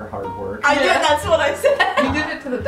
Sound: laughing

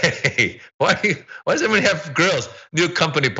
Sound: laugh

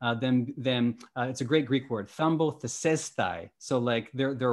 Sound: speaking greek

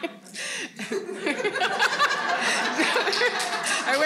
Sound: all laughing

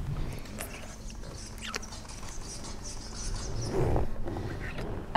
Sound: strange scratching sounds

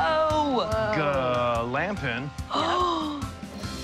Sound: gasps

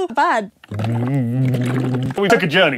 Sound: Tom hums into a water bottle

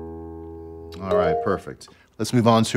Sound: app chiming

